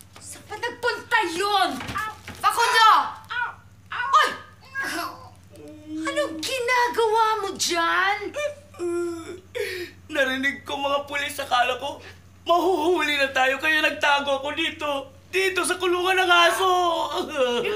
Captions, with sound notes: Where did he go? Facundo! -Hey! -[sobbing] What are you doing there? [crying] I heard the police, I thought we'd get caught. That's why I hid here! In the dog's cage!